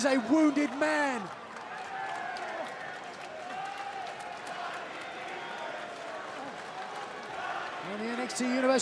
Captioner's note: crowd cheering